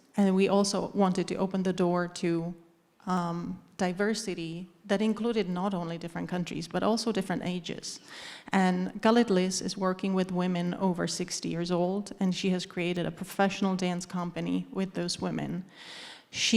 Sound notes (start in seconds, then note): none